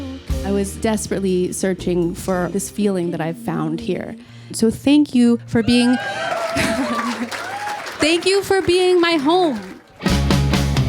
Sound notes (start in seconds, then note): 5.6 audience cheers